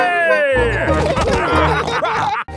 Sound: all laughing

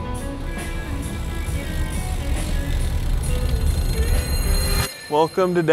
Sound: calm music; gears winding

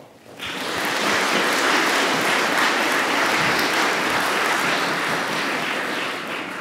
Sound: applause

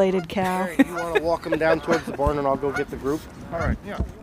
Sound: laughs

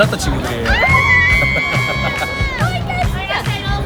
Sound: screaming~~!!

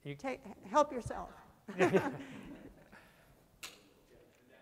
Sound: laughter

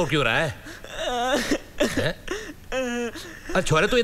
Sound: sobbing

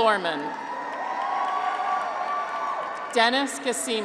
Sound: graduates cheer

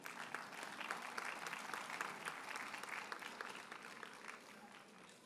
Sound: audience applauds

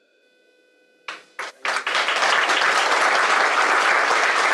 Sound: audience applauds

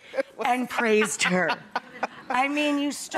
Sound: laughing

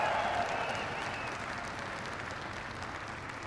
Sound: applause

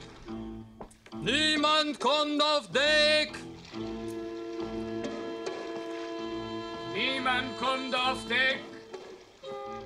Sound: in German

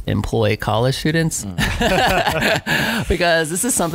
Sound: laughing

